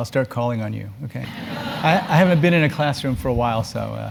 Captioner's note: laugh